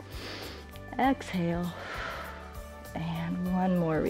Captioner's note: exhales; inhales